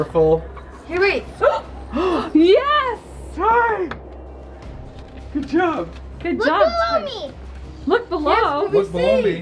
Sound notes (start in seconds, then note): 1.8 gasps